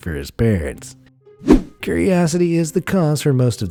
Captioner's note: air whooshing